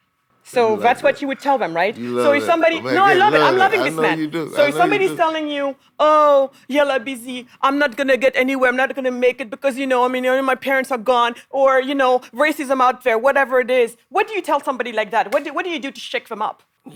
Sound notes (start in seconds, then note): 0.5 group chattering